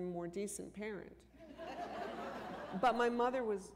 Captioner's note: laughter